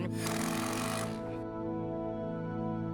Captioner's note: sound of impact drill